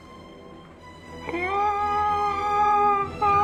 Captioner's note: man yelling